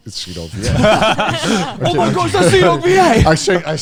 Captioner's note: all laughing